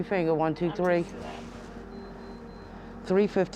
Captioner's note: beeps